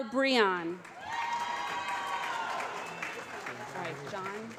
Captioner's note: applause